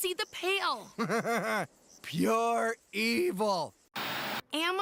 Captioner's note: chuckling